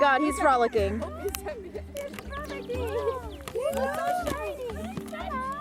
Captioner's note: guests squealing gleefully